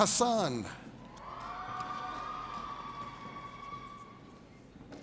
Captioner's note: audience cheers